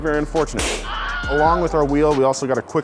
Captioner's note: man screams